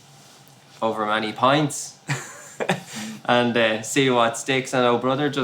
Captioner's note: laughs